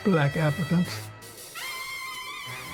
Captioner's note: horns blaring